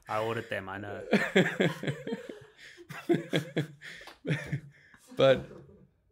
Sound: laughing

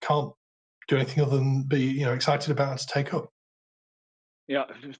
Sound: murmurs

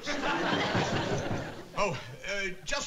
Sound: knocking on door

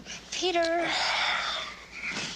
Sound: sighing

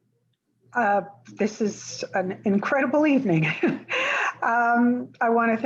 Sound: chuckles

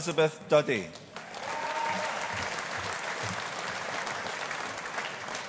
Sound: audience applauding

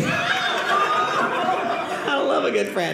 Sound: audience laughing

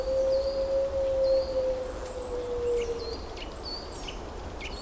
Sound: owl calling out

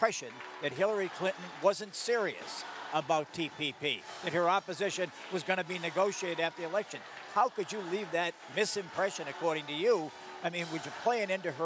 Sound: applause

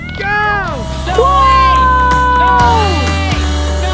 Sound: cheering; playful guitar music

